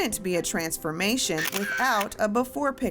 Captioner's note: camera shutter sound